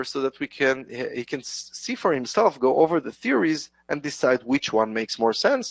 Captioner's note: none